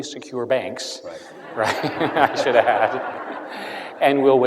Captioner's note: laughter